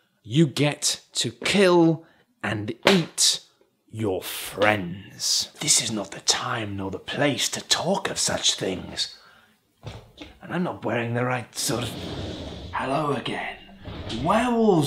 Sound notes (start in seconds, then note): 11.7 whoosh